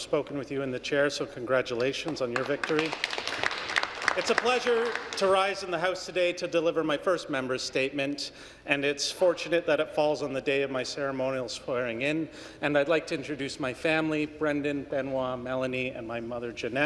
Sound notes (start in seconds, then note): 6.2 some Applause